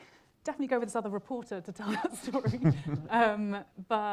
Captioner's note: chuckles